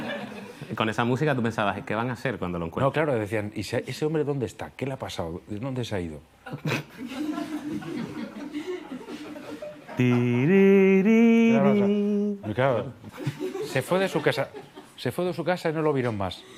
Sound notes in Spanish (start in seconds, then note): 6.4 Risas; 9.8 canturrea